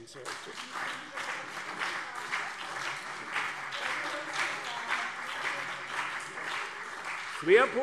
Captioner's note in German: Beifall CDU und BÜNDNIS 90/DIE GRÜNEN